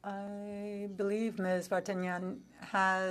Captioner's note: speaking French